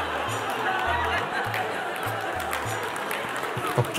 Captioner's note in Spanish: risas y aplausos